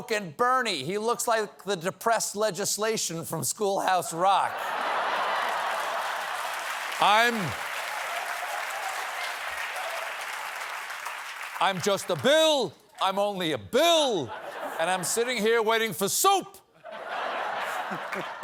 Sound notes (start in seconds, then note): 4.4 laughter; 4.7 cheers and applause